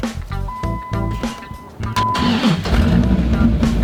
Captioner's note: engine Starts